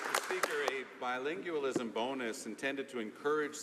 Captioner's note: some Applause